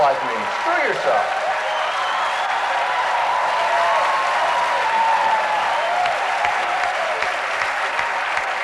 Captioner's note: applause